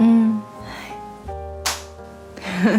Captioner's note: clap!